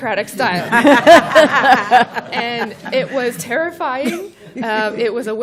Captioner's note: laughter